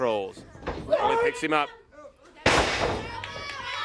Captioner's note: crowd chatter